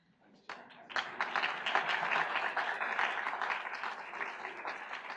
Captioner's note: audience applauds